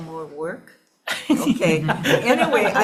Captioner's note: audience laughing